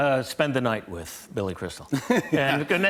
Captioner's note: laughter